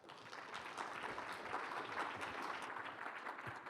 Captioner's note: applause